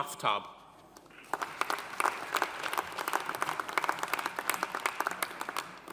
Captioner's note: audience applauding